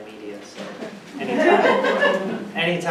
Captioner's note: audience laughs